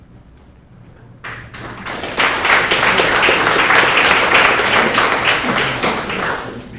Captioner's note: applause